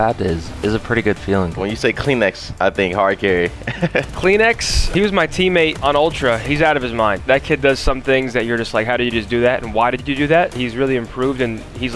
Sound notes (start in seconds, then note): 2.6 laughs